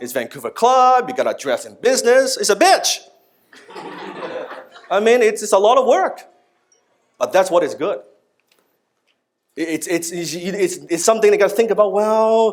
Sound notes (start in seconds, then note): 3.6 laughing